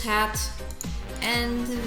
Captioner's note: mouse clicks for some reason